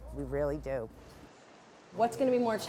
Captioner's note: city noise